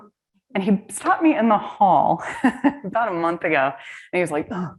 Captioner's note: laughs